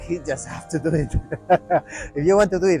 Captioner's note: giggle